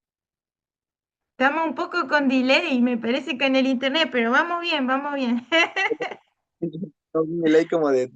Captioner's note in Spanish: risas